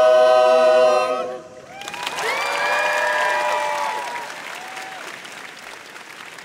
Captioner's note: crowd applauds